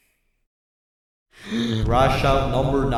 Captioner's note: inhales